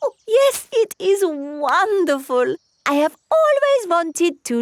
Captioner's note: laughs